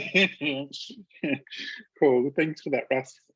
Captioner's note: laughs